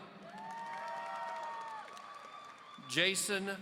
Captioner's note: audience cheering